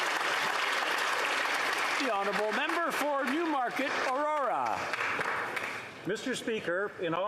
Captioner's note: some Applause